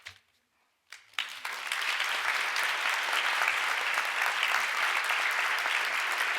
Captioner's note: audience applauds